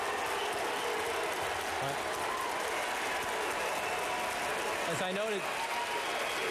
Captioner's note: applause